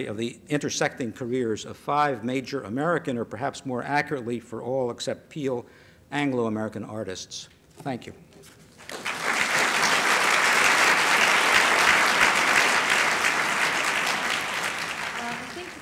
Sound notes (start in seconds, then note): 8.8 applause